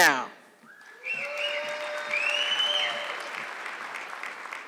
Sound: audience clapping

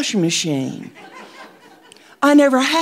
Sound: audience laughing

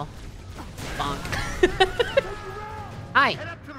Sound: laughing

